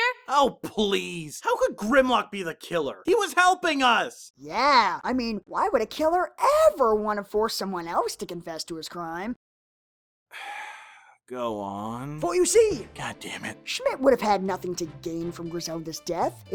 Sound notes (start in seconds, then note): 4.3 sarcastically; 10.3 sighs